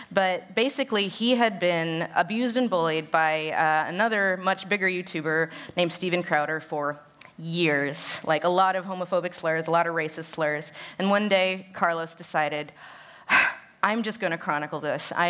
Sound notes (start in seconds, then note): none